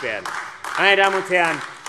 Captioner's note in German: Beifall AfD